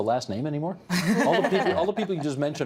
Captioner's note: all laughing